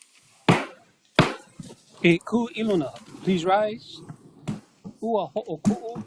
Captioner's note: gavel bangs twice